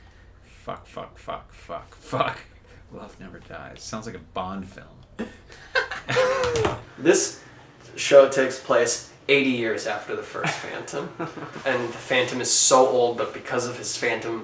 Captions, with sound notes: Fuck fuck fuck fuck fuck *whispers* Love never dies Sounds like a Bond film (both laugh) This... show takes place 80 years after the first Phantom and Phantom is so old but because of his phantom